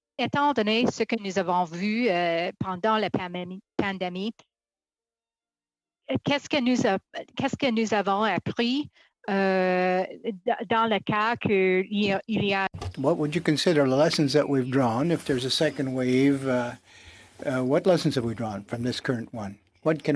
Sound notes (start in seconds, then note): 16.2 speaking in French